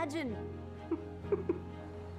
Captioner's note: giggling